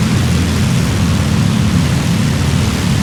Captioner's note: aircraft engine